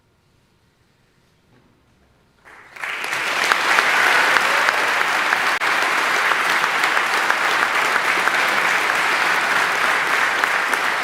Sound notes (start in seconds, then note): 2.4 audience applauding